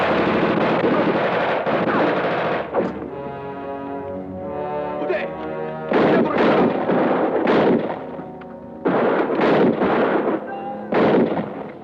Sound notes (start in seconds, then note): 5.1 man speaking Japanese; 7.5 gunshots blasting